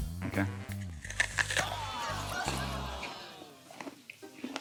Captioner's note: groaning, laughter